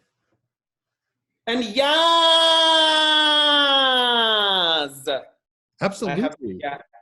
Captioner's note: shouts